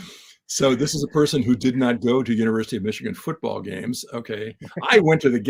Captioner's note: laugh